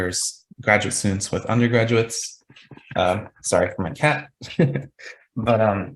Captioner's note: chuckles